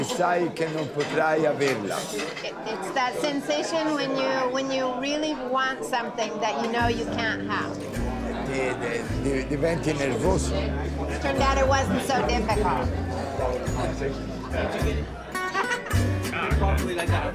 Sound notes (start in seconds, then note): 8.2 Dario speaking Italian; 15.0 upbeat music; 17.1 restaurant patrons talking